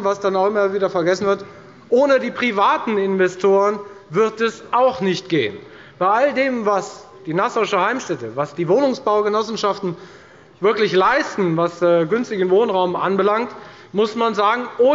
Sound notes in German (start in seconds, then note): none